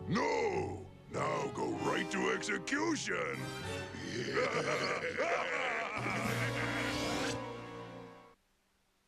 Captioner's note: both laugh evilly